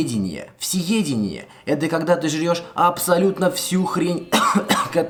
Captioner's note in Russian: кашель